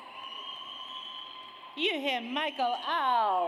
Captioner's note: audience cheers